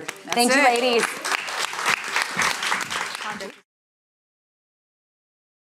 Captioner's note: audience applauding